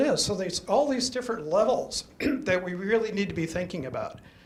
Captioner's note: throat clears